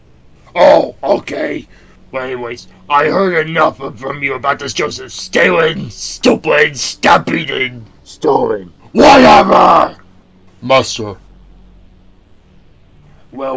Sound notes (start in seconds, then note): none